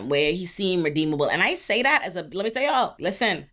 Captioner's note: none